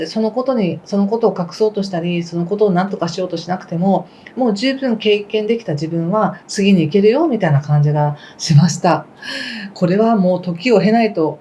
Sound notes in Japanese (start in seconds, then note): 9.2 息をのむ音